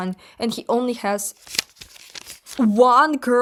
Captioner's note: flipping pages